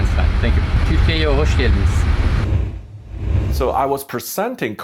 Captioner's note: speaking in foreign language